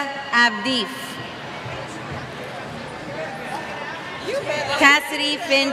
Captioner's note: cheers